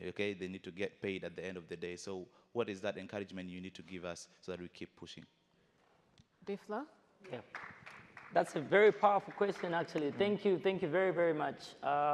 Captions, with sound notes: Okay, they need to get paid at the end of the day. So what is that encouragement you need to give us so that we keep pushing? - B-flow? (audience applauds) - That's a very powerful question, actually. Thank you, thank you very very much.